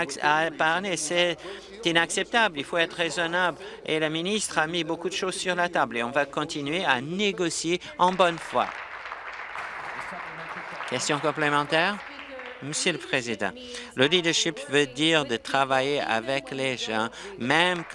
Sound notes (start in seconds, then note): 13.7 applause